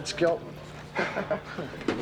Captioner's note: Evan chuckling